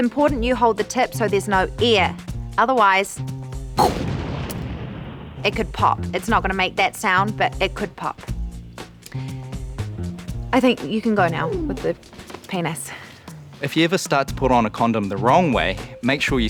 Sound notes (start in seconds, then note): 3.7 imitates explosion